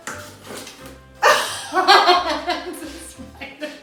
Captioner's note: laughing